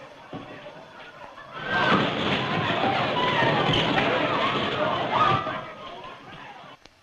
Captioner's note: commotion